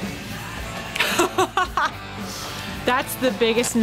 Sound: laughter

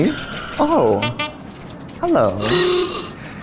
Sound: old-fashioned horn blows; horn honks

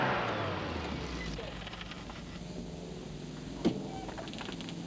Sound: engine stalls

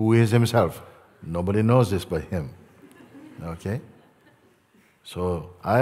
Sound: laughter

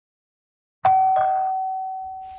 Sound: doorbell

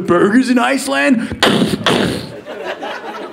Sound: imitating gun

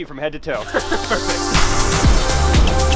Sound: laughing; exciting music

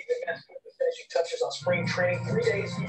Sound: television in background

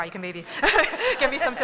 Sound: laughter

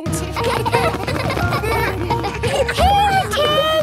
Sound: laughter

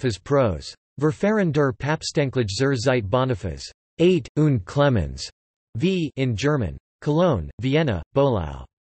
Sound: in German

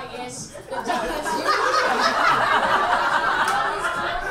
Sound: audience laughs

